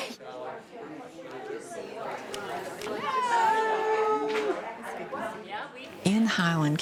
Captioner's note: chatting and laughing